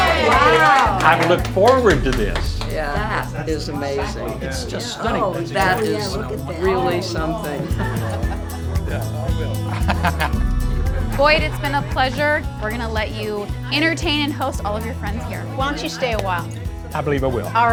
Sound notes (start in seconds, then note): 7.3 gentle music; 9.6 laughs